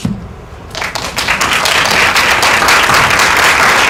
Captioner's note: applause